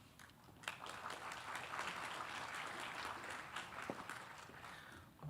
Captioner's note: audience applauding